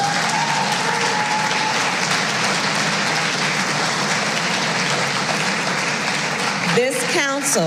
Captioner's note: applause